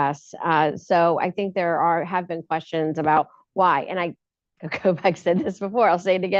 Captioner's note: laughs